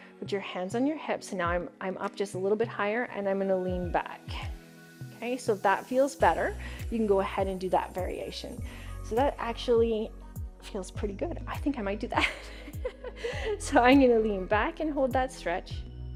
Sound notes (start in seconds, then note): 12.2 chuckles